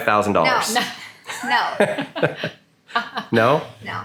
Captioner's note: group laughing